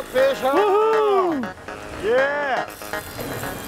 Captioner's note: cheers